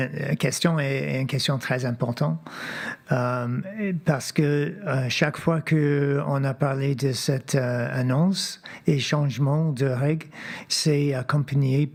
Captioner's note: speaking French